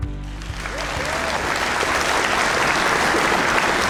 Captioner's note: audience applauds